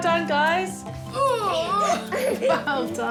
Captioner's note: laughs; groans; squeals; laughs